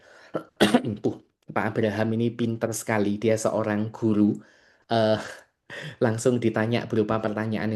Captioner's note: berdehem